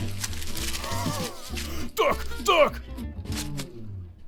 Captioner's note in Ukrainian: звук схвильованного розривання пакету